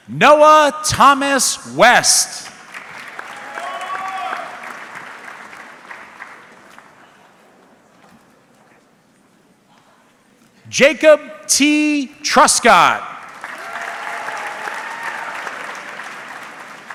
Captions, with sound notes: Noah Thomas West. (audience clapping) Jacob T. Truscott. (audience clapping)